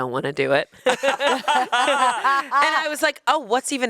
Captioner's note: everyone laughs